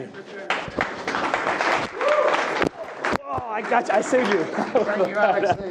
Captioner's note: attendees clapping